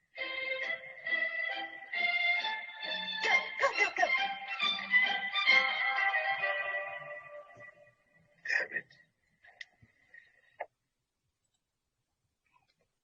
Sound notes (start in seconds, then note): 0.0 bouncy music; 8.2 speaking in a foreign language